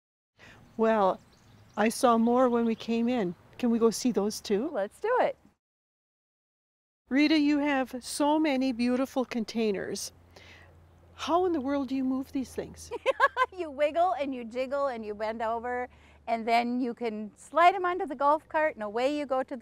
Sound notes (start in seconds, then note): 12.9 laughs